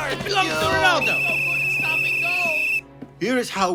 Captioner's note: shouting; whistle blow